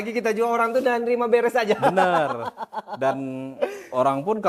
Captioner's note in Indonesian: tertawa